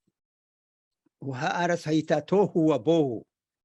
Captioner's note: speaking hebrew